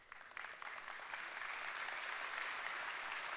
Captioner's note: applause